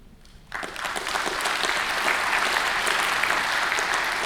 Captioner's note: audience applauding